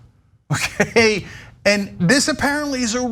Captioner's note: laugh